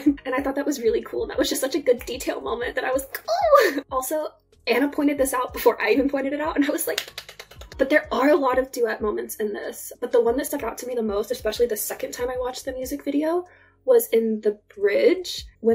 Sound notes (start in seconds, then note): 7.0 applause